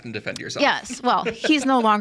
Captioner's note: laughing